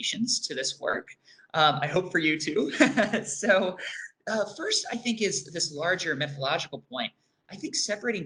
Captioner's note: laughs